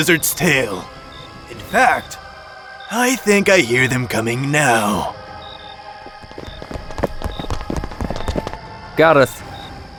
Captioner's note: more stomping into the stables